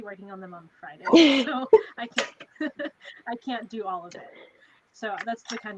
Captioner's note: laughing